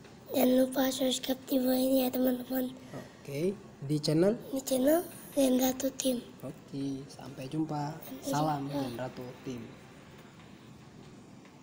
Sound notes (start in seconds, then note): 0.1 the voice of a child; 4.4 voice of a child